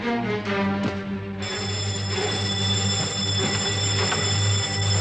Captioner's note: alarm Bell Ringing